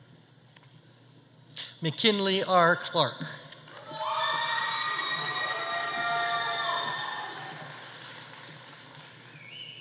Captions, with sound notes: McKinley R. Clark. (audience applauding) (audience cheering)